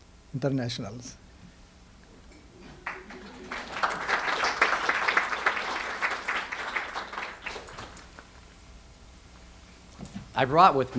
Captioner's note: audience applause